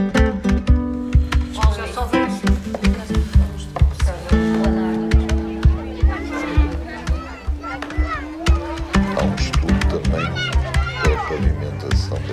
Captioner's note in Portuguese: vozes